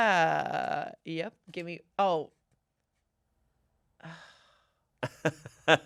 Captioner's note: sighs; laughs